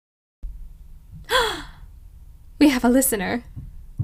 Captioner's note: gasp of pleasant surprise